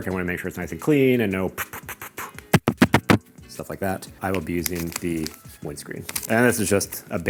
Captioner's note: unwanted mic noise